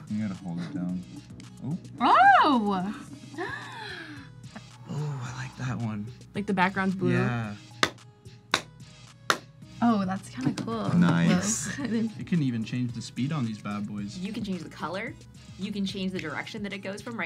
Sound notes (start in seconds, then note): 3.3 gasps; 7.8 claps; 11.8 laughs